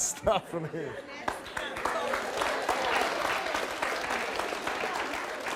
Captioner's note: audience claps